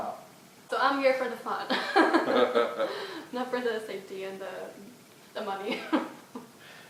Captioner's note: laughs